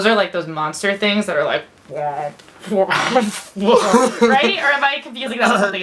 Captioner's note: laughs